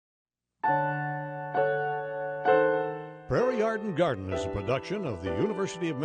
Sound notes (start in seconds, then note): 0.6 piano music; 3.5 voiceover